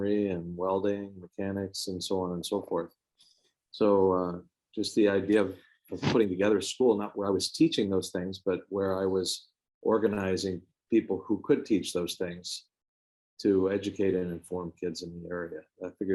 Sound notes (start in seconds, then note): none